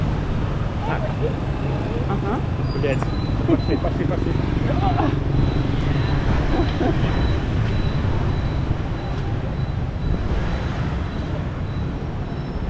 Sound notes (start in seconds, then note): 2.5 typical sounds of road crossings in Vietnam